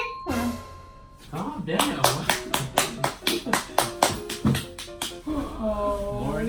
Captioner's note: claps loudly